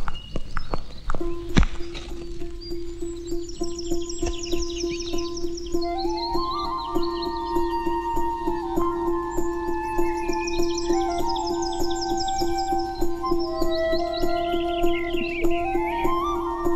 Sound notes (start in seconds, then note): 4.1 birds Chirping